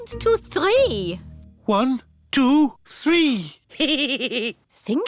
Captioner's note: giggles